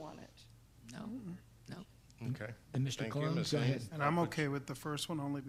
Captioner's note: board members mumbling